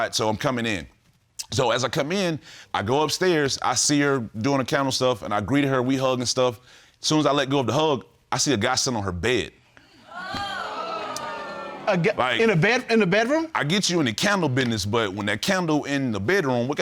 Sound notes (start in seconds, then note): 10.0 audience exclaims